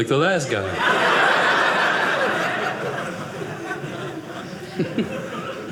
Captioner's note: audience laughing